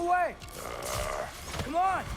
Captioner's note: grunt